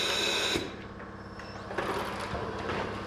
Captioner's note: whirring noises